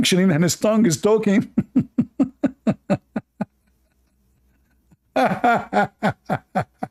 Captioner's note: Ketawa